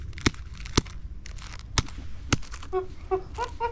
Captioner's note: tap tap; chimp sounds